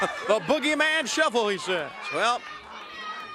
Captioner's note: crowd chatter